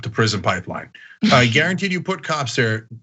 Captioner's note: laugh